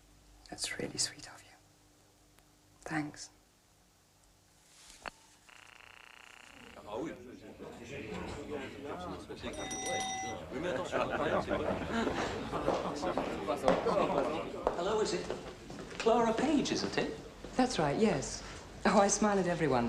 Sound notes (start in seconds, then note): 9.5 bell ringing